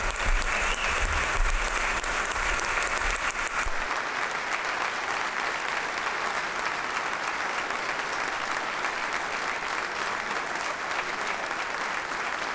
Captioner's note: applause